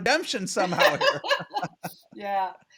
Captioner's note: laughing